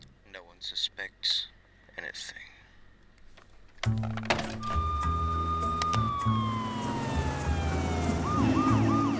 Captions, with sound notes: No one suspects anything. (sirens wail)